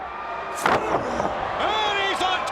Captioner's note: Muta exclaims